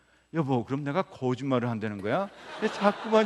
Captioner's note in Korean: 웃음